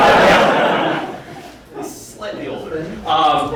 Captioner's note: audience laughing